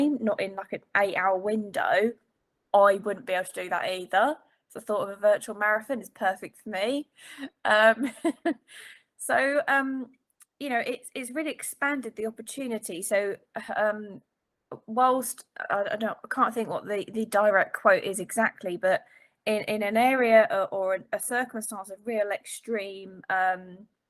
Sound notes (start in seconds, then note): 7.8 laughing